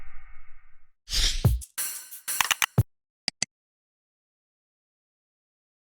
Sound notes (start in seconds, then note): 1.1 logo swoosh; 2.4 typing